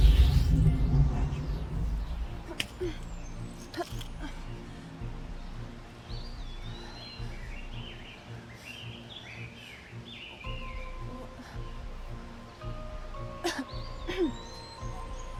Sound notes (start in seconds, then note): 4.8 birds chirping